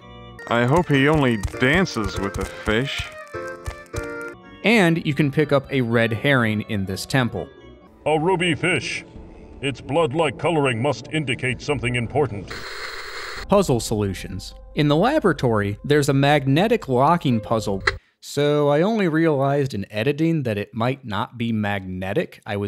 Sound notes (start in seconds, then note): 17.8 click